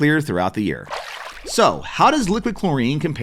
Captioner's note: water splashing